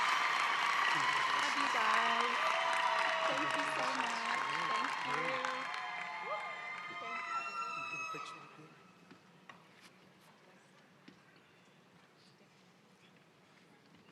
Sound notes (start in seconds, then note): 7.6 cheering and applause